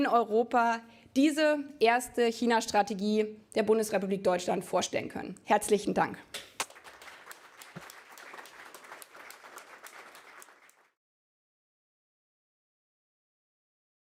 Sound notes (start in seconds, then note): 6.4 applause